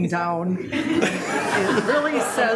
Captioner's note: group laughing